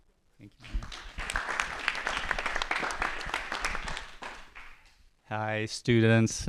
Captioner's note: applause